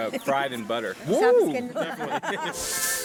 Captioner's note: laughs